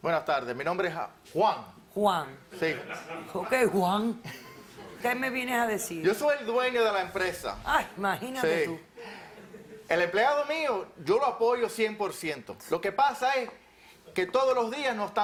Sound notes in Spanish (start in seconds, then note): 2.5 Risas